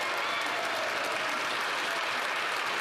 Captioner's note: some Applause